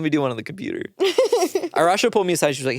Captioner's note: laughs